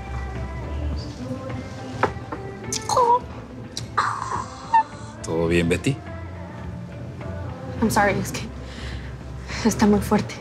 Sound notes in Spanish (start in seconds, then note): 2.4 Exclamaciones